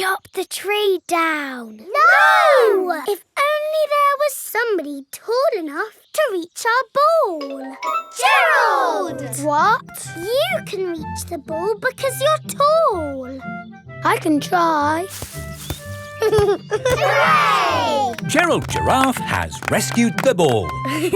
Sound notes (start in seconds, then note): 15.0 leaves rustle; 16.1 giggling